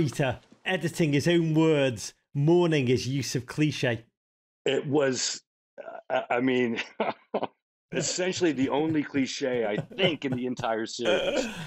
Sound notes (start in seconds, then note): 6.7 chuckling